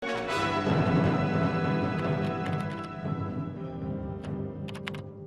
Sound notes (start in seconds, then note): 0.0 keyboard clicking; 0.0 dramatic orchestra music